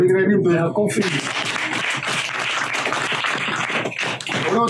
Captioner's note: applause